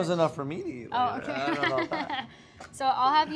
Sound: laughter

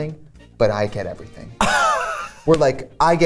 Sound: laughs

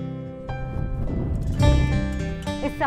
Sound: wind blowing

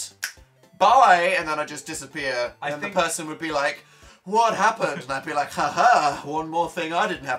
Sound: snaps finger

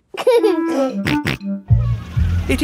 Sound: giggling and snorting

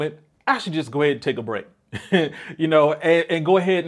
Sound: chuckles

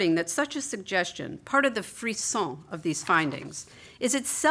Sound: non-english

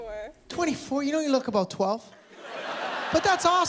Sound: laughter

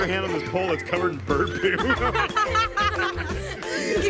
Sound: laughing

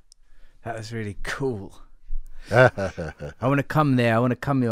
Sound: laughs

